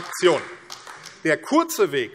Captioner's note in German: Beifall AfD